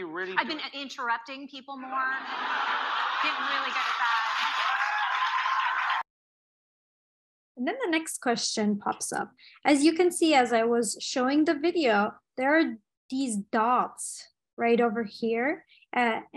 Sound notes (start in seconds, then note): 2.2 audience laughing; 4.4 audience cheering